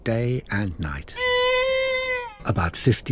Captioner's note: humming